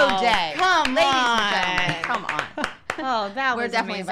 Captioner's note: claps